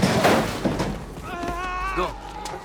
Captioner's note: groaning